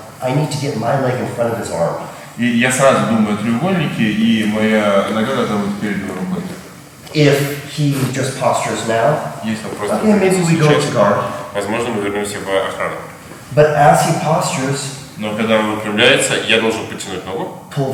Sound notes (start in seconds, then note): 2.1 speaking in a foreign language; 11.8 speaking in a foreign language; 15.4 speaking in a foreign language